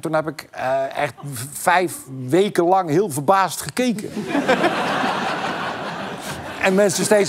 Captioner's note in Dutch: gelach